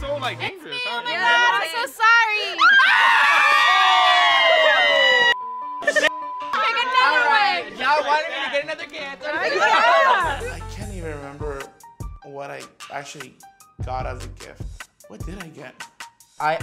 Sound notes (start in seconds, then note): 2.4 all exclaiming; 5.4 beep